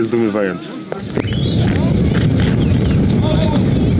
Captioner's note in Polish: głośny giwzd